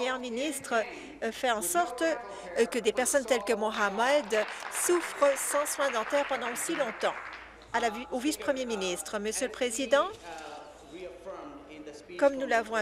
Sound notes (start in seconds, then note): 6.3 applause